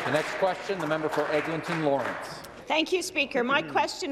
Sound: some Applause

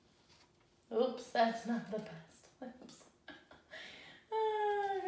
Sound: laughs

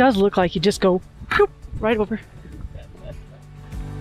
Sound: boop

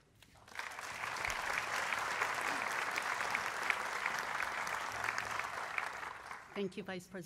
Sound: applause

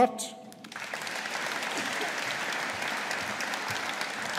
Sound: audience applauding

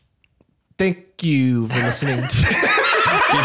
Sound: laughing

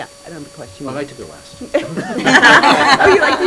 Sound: laughter

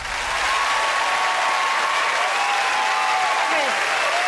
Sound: cheering and clapping

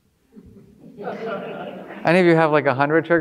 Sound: audience laughing

